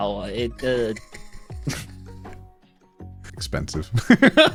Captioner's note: laughing; laughing